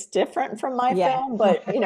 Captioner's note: laughing